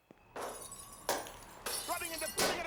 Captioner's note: glass breaking; shouting